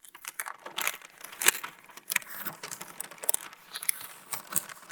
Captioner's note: paper rustling